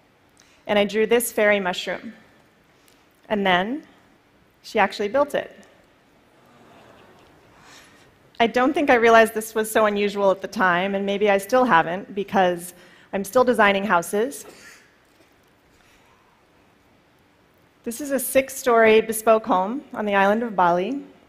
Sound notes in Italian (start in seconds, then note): 6.6 Risate